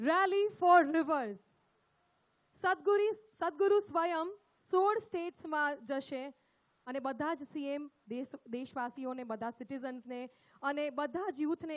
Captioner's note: speaks in Gujarat – not transcribed